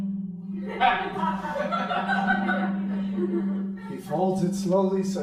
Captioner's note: crowd laughing